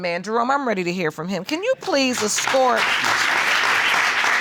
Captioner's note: audience applauding